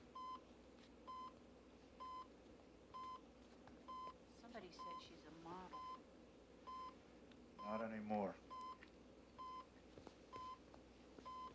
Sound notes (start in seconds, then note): 8.9 instruments beeping